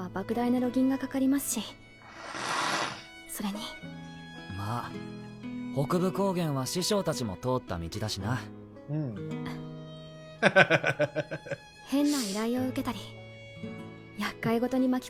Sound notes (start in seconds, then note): 3.3 laughs